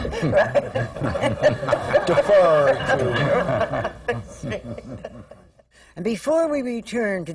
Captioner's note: laughter